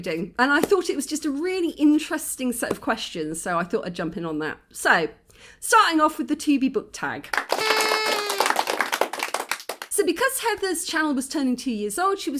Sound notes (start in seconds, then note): 7.3 applause; 7.5 party popper